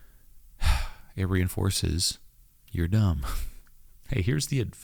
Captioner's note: exhales